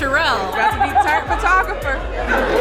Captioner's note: guest laughs